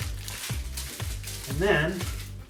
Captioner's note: paper rustling